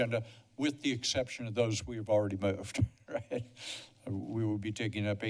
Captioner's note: laughter